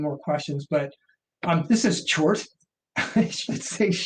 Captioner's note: laughs